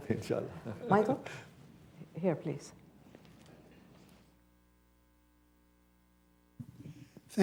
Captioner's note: laughs